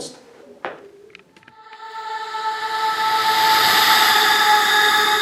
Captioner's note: mysterious vocalization